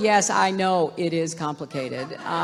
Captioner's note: laughter